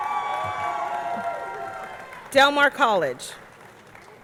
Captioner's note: audience cheering; audience clapping